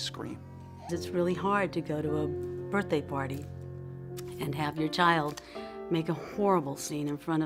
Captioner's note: female voice